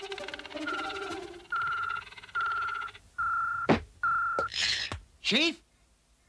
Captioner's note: ringing